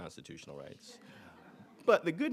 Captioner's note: audience laughing